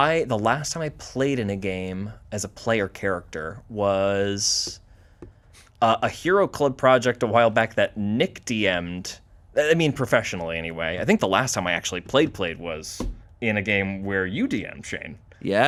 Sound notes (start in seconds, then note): none